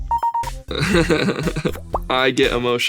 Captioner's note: laughs